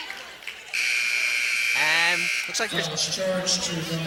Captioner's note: buzzer sounding